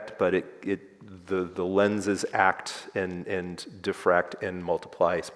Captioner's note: none